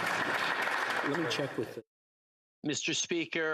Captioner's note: applause